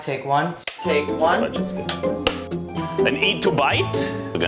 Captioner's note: clapper sounds